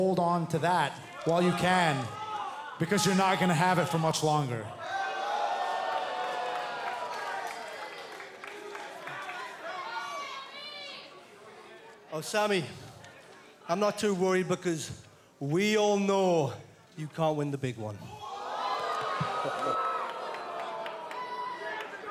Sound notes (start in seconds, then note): 6.6 cheers & boos